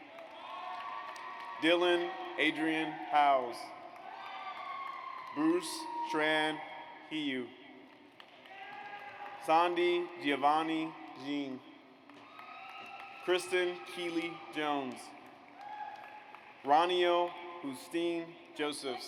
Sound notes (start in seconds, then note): 0.0 audience cheers; 8.4 audience cheers